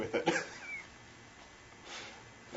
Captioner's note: laughs